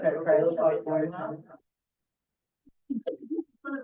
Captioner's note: background chat